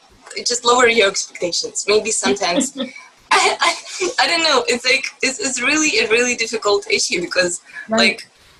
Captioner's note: laugh